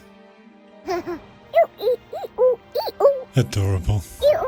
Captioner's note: giggling